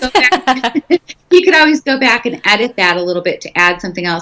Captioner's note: laughing